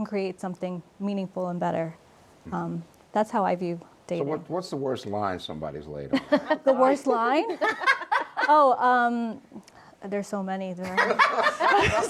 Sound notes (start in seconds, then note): 7.4 laughs